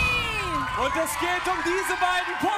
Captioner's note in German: Lauter Jubel